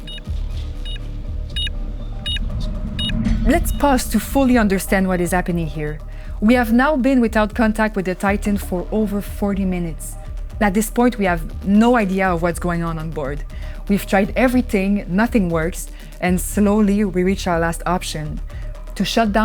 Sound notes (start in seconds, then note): 2.2 connection lost